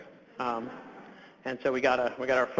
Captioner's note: audience laughs